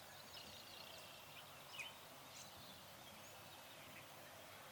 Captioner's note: birds chirping